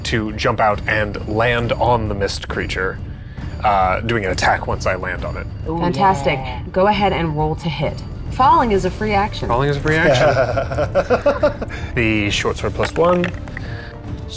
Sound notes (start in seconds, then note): 12.0 laughing; 12.3 die rattling